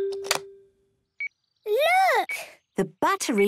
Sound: clicks; meter beeping

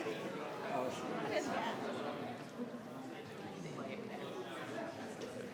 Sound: people chattering

